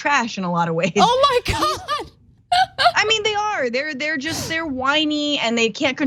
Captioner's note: laugh